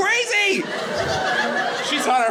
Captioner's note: audience laughing